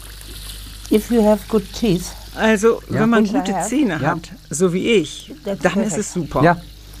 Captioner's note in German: englisch